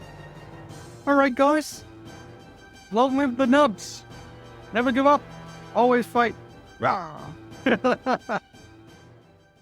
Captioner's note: laugh